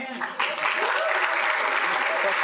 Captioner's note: applause